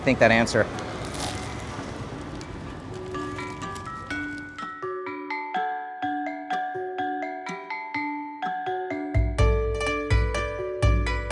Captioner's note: crunching sound